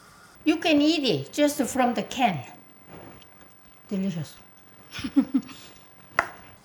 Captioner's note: chuckles